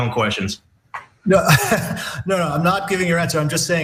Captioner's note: laugh